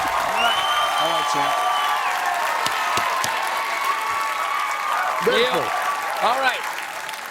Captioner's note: cheers and applause